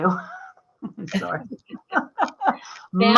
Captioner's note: laughter